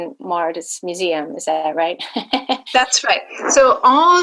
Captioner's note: laughing